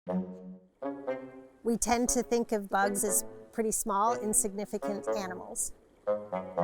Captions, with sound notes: [horns] We tend to think of bugs as pretty small, insignificant animals.